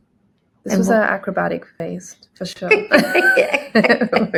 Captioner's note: laughing